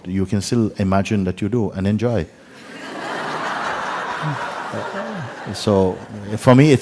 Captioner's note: laughter